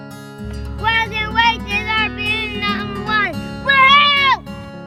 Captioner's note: cheers; soft music